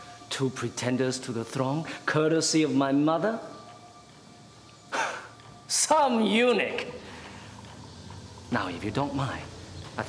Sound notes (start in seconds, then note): 5.0 laughs